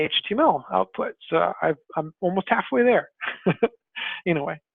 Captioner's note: laughs